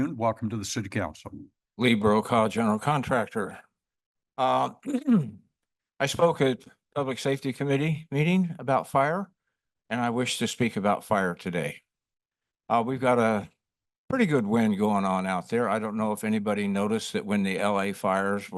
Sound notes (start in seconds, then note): 4.8 clears throat